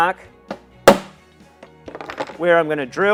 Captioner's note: hammer bangs